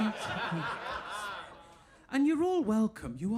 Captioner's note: audience laughing